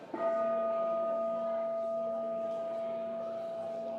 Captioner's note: bowl ringing